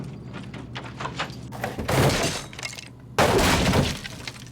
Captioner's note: door banging